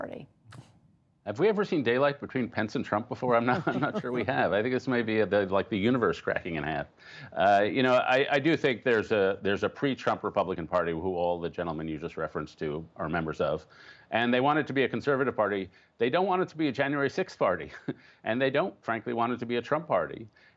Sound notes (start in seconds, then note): 3.3 laughter